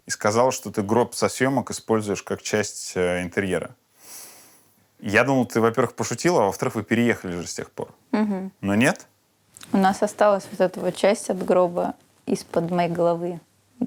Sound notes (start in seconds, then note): none